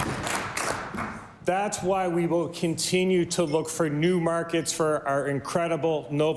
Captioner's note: applause